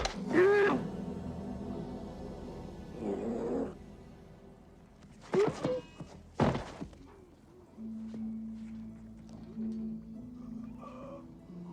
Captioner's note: man shouts